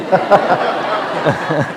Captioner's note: laughter